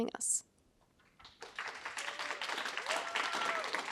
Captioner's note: applause